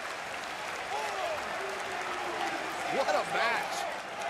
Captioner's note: crowd cheering